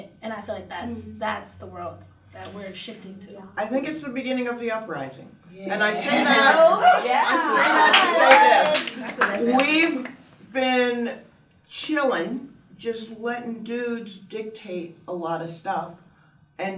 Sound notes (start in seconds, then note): 5.8 laughs; 5.8 audience cheers and applauds